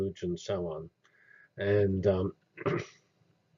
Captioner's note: cough